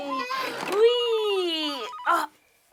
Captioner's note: phone ringing